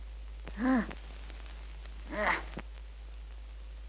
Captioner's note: mother moans